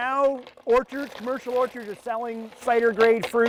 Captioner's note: grinder grinding